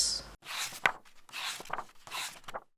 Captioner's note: pages turning